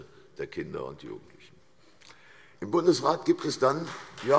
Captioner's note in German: Beifall CDU, BÜNDNIS 90/DIE GRÜNEN und vereinzelt Freie Demokraten